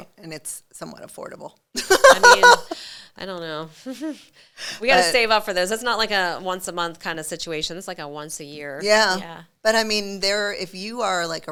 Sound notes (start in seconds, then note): 1.8 chuckling; 1.8 laughing